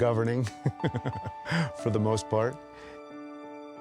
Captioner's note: chuckling